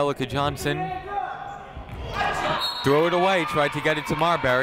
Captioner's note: people shouting in the crowd